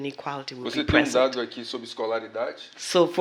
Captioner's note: speaking portuguese